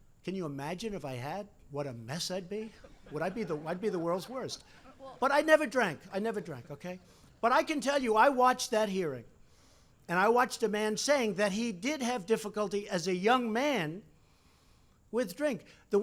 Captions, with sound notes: Can you imagine if I had, what a mess I'd be. (Laughter.) Would I be -- I'd be the world's worst. But I never drank, I never drank, okay? But I can tell you, I watched that hearing. And I watched a man saying that he did have difficulty, as a young man, with drink.